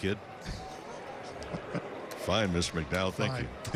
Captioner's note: laughter